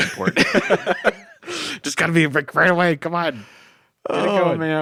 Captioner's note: laughs